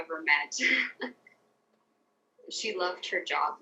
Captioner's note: laughs